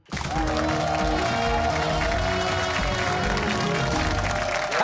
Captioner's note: cheers and applause